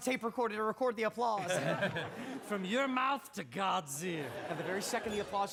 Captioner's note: chuckles